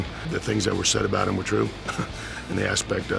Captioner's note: laughs